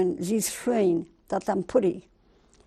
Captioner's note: speaking German